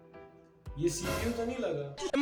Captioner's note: dramatic Sound